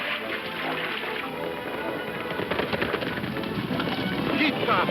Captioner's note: water splashing; hooves thumping; speaks in foreign language